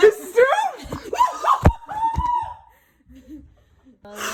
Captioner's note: laughs